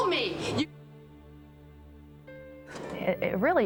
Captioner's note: muted